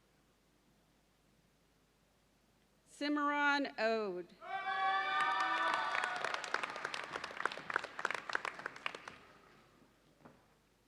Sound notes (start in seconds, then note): 4.5 audience cheers and applauds